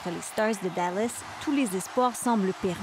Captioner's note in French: cris et applaudissements